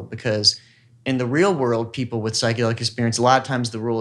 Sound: none

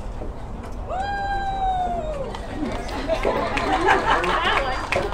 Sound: applause

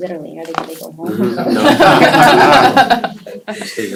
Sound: laughter

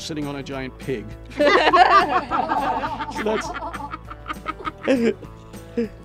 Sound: laughter

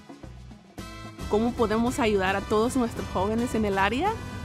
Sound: Spanish

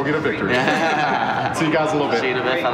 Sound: laughing

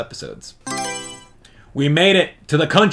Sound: Mario Selection Sound

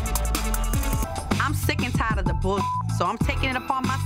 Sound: beep

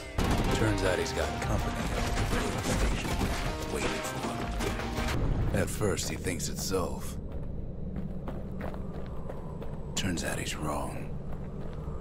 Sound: in-game audio

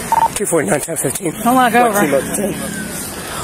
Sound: radio chatters

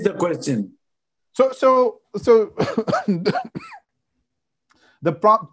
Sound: coughing

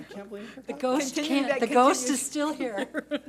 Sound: board laughs

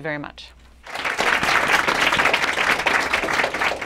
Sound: applause

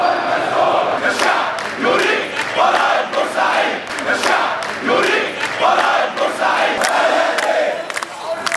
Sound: chants

